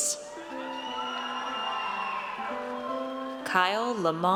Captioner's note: audience cheers